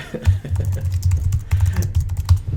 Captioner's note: laughs